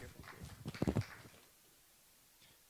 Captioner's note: applause